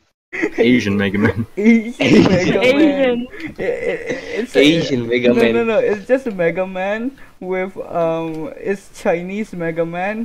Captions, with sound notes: ASIAN megaman (all choking) (error stuttering) no no no its just megaman with umm its chinese megaman-